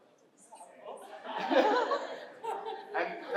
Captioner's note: laughter